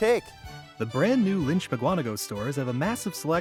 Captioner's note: voiceover